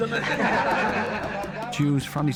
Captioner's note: people laughing